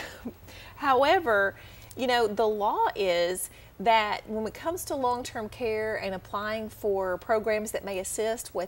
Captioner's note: chuckle